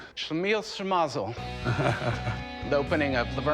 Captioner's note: chuckles